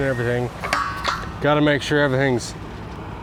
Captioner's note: metal clangs